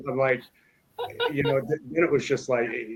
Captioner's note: laughs